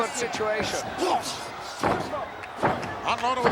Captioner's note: both grunting